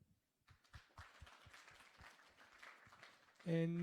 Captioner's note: applause